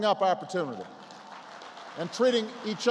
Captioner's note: applause